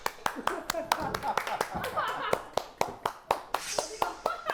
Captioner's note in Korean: 먹자마자 터지는 박수